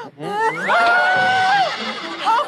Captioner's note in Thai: เสียงร้อง